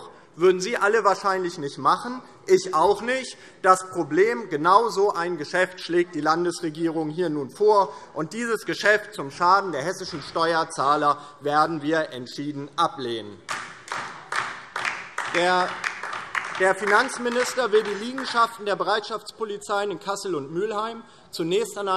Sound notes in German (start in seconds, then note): 13.4 Beifall DIE LINKE und vereinzelt SPD